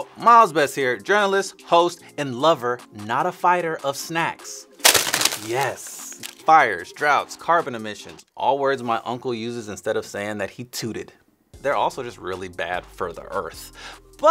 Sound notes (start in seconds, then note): 4.8 bags crinkling